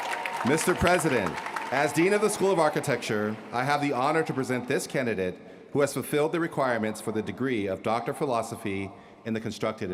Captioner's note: cheers & applause